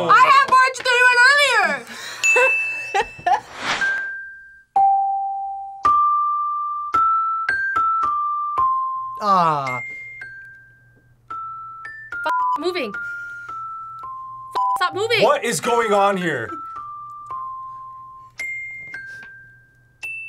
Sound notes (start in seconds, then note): 2.2 bell rings; 2.9 both laugh; 3.9 playful music